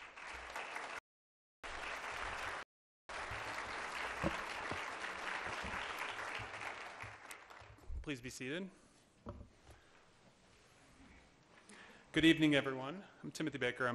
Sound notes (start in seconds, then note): 1.5 applause